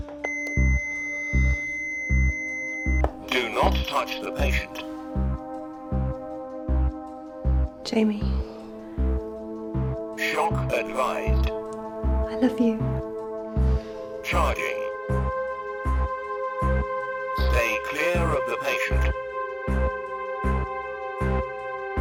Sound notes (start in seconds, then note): 0.2 machine bleeping; 3.1 robotic Voice; 10.1 robotic Voice; 14.1 robotic Voice